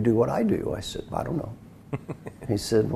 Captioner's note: laugh